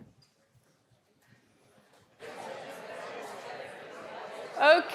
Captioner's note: audience indistinctly chattering